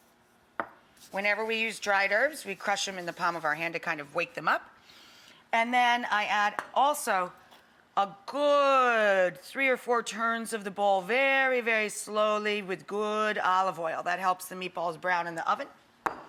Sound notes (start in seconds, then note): none